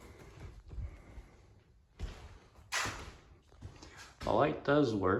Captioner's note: footsteps